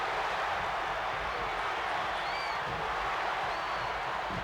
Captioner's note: crowd cheers